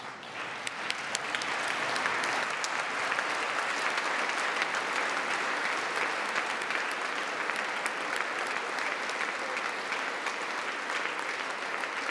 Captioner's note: applause